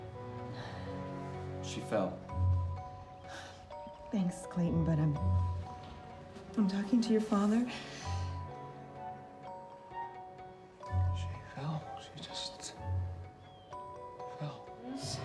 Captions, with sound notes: She fell. [sighs] Thanks, Clayton, but, I'm... I'm talking to your father. She fell. She just... fell.